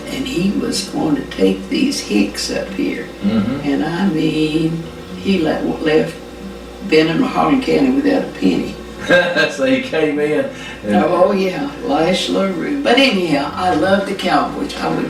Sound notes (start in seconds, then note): 8.9 chuckles